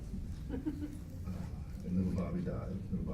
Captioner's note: audience member laughs